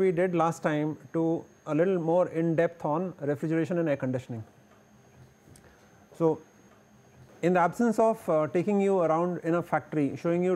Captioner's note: air conditioning